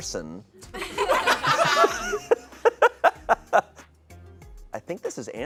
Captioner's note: audience laughing